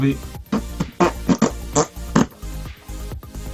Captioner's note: improvised beatbox and rude hand language